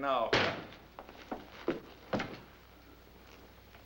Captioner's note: door thudding